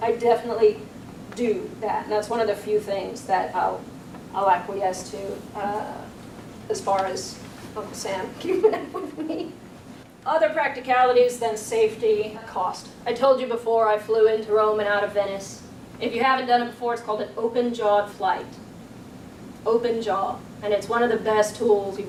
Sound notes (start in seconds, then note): 8.4 audience chuckles